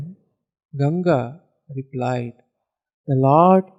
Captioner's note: in Sanskrit